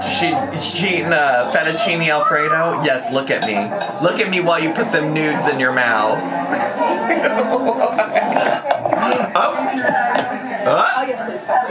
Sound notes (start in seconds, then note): 7.0 laughs